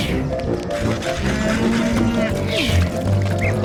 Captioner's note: cow moos